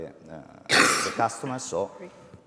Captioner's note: coughs